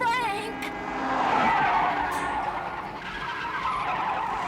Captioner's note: tires Squealing; car Horn Honking